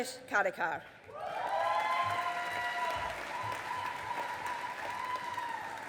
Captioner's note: audience applauding